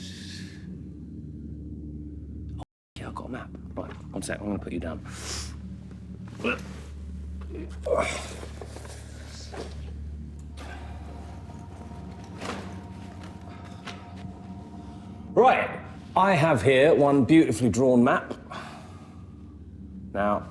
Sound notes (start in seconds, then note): 7.9 Danny grunts; 11.2 ominous music continues